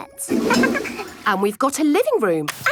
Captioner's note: toilet flush